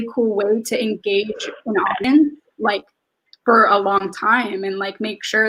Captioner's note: speaks faintly